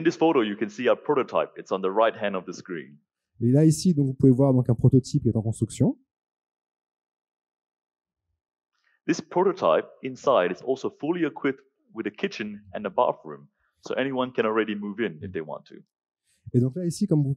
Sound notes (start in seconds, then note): 4.0 translating into french; 17.1 translating into french